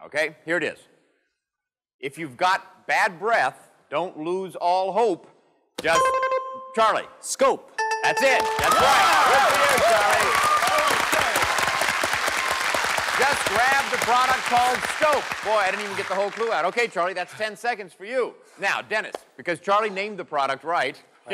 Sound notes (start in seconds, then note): 5.9 dings; 10.5 cheers and applause